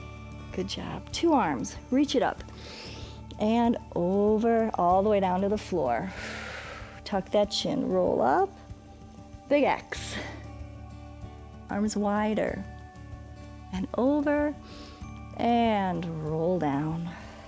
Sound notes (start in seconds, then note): 2.5 inhales; 6.1 exhales; 14.6 exhales